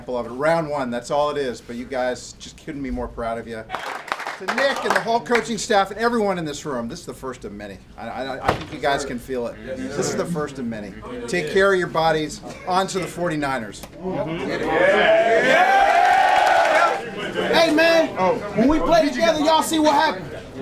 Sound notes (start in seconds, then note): 14.8 cheers and applause